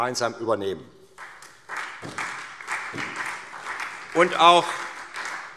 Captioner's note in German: Beifall SPD